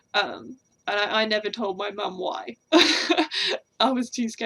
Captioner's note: laughs